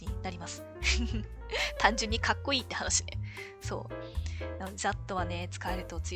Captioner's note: laughs